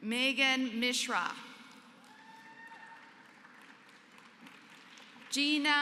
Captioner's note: applause